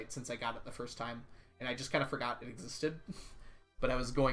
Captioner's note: chuckles